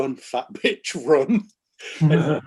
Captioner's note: laughing